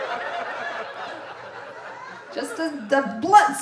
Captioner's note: audience laughing